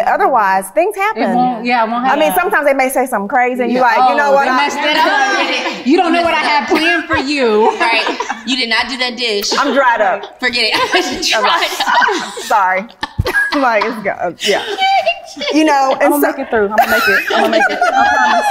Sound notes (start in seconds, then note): 13.4 all laugh